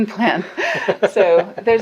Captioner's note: laughing